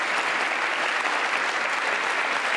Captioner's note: applause